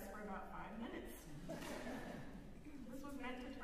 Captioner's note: laughter